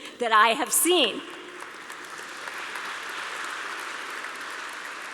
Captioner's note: applause